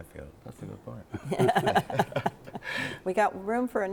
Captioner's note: all laughing